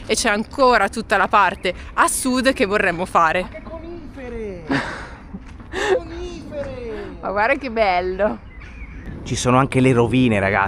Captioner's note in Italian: risate